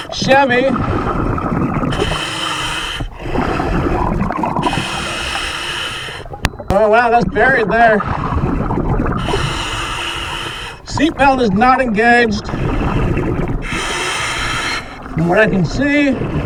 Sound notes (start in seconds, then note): 2.0 regulator hissing; 2.0 water burbling; 13.6 regulator hissing; 13.7 water burbling